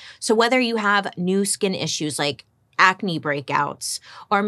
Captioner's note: none